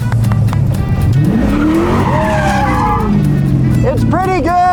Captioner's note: clapping; car engine revving